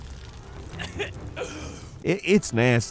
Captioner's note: Helios coughing